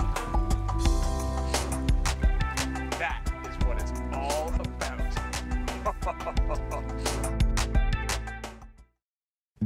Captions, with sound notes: - That is what it's all about. (laughs)